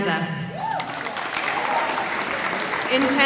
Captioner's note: audience applauding